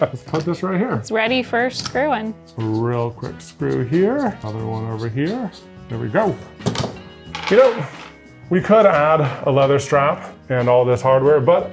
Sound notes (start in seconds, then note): 6.4 wood table thuds